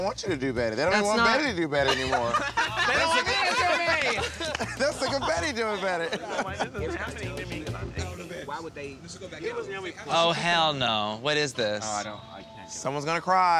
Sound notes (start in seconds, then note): 6.7 all laughing